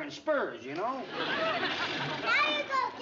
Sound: blowing sound

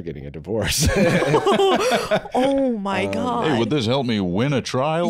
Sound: all laughing

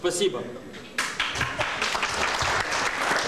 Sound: non-english speech; applause

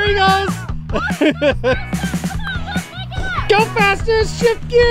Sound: chuckles

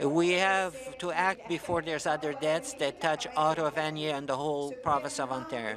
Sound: speaking french

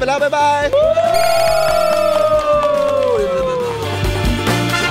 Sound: cheering; applauding

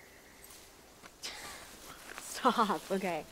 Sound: giggling

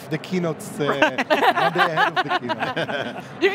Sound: laughing

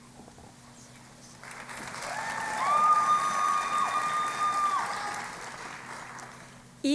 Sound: cheering and Applause

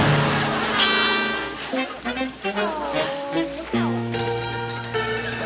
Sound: groaning

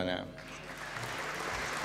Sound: applause

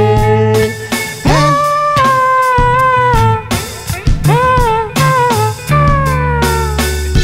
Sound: vocalizing

